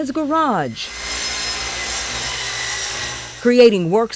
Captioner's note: saw buzzing